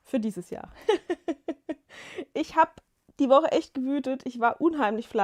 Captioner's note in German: gelächter